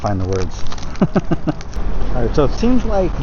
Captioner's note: laughs